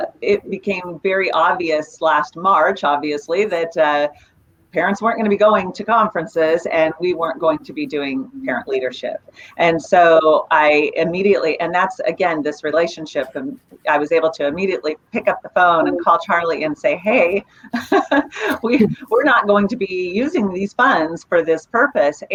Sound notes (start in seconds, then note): 17.2 laughs